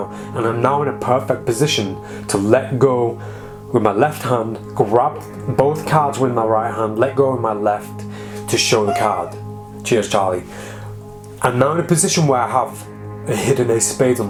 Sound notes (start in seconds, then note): 8.8 cat meows